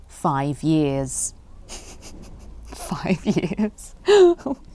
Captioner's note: laughs